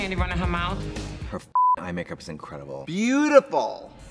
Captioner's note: beep